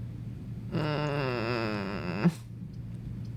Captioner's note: defeated groan